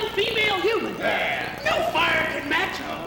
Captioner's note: men voice agreement